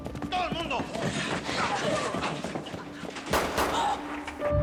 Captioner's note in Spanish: Exclamaciones; Disparos